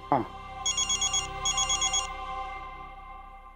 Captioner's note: phone ringing